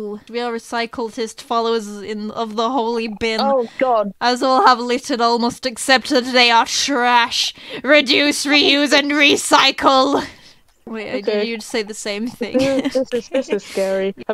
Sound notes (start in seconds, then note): 7.8 reading text, shouting; 11.0 laughs